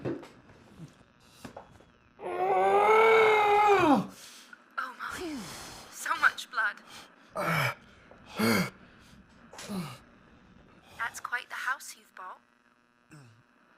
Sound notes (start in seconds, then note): 2.2 Kenny screams; 6.8 Kenny heavily breathing